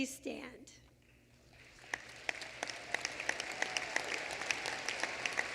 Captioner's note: applause